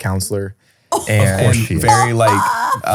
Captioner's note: laughs